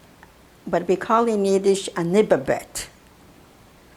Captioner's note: yiddish